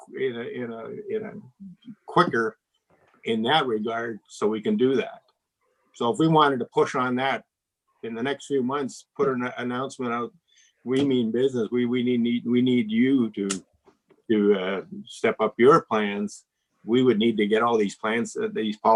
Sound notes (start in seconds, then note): none